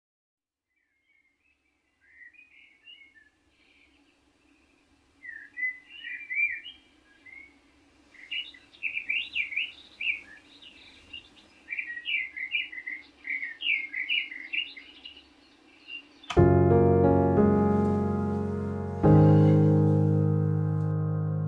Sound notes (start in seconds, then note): 2.0 birds chirping; 16.3 piano music